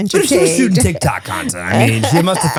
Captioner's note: laughs